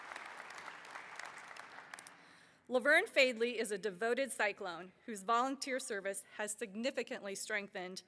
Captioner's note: applause